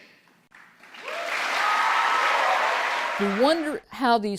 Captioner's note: applause